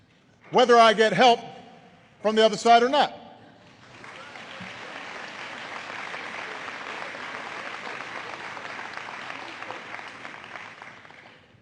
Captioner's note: applause